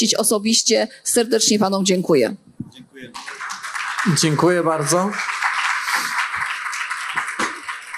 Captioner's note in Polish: oklaski